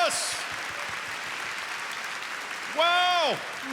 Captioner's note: applause